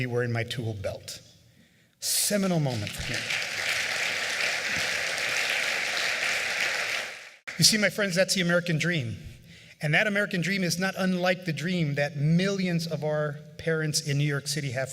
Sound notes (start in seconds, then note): 5.0 applause